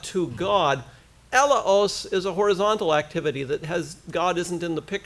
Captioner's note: foreign language